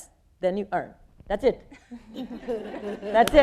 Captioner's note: people laughing